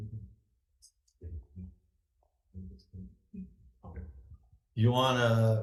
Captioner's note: people chattering